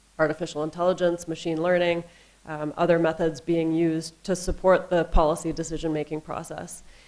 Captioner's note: none